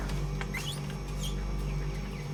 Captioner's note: door squeaking